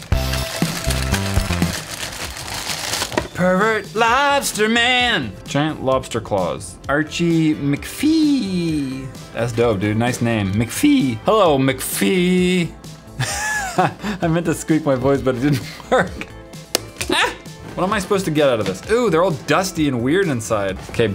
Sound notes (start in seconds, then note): 3.3 singing; 12.0 voice falls flat; 13.2 chuckles; 16.6 item pops